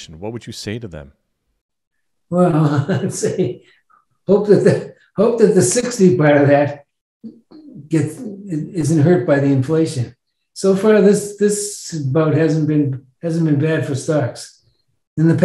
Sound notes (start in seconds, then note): 3.0 laughs